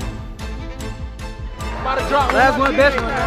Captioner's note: crowd cheering